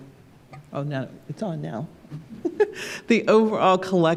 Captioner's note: laughs